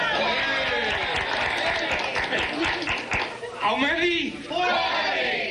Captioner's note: applause; cheering, applause